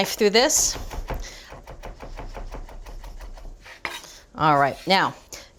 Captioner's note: knife running